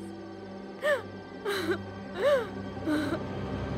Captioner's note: Crying